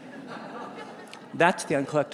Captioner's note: audience laughs